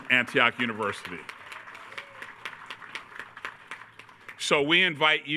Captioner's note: attendees cheering